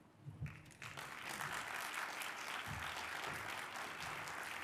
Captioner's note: audience applauding